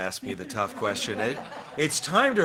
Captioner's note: attendees laughing